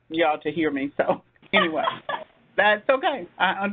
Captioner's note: laughing